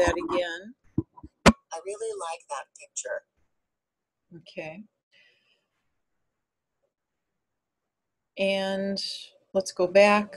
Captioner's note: voiceover